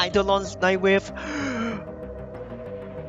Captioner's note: gasping for air